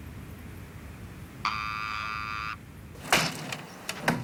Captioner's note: entry buzzer